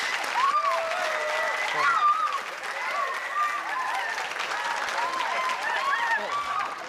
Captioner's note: applause